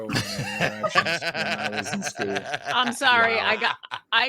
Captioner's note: laughing